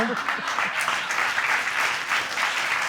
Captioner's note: audience applauds and laughs